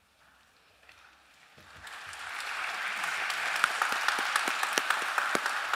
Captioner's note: applause